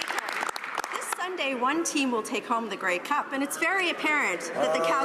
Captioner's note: some Applause